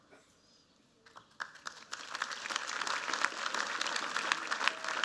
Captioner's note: applause